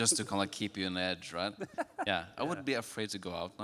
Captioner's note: laughing